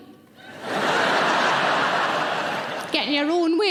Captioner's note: audience laughing